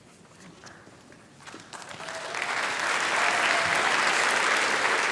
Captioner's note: applause